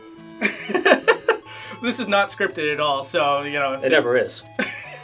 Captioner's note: laughs; laughs again